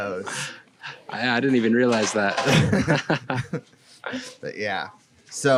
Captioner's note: laughs